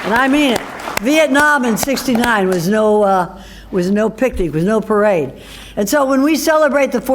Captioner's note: applause